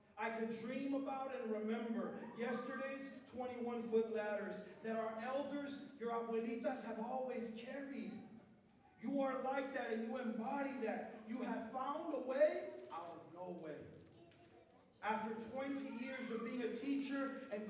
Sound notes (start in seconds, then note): 5.9 non-english speech